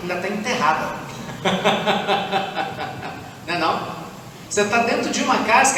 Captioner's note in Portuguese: risadas